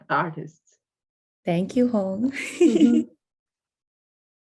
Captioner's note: laughs